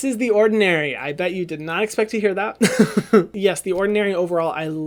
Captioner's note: laughs